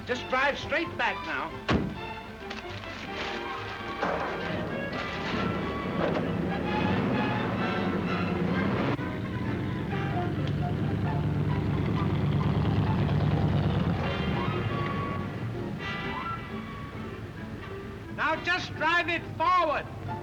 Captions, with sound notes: Just drive straight back now. (door thuds) (gentle music) (car engine cranking) (car engine purring) (car engine revving) (gentle music) Now just drive it forward.